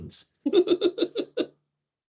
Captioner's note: laughing